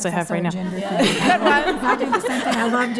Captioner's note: laughter